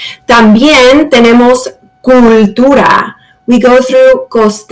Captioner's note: speaks in Spanish